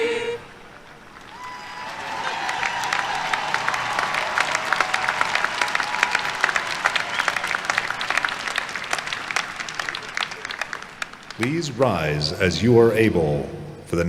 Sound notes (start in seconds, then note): 5.9 cheers and applause